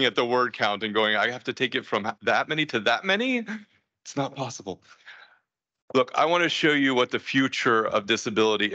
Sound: laughs

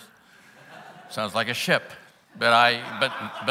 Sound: laughs

